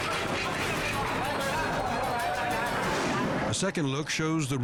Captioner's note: dramatic music continues; people speaking in foreign language